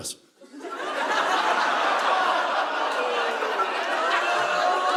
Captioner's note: audience laughing